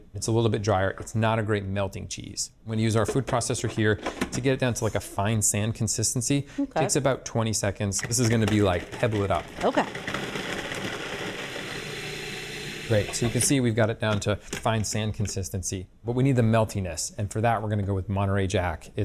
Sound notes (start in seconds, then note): 8.9 food processor whirring